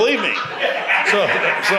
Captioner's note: audience laughs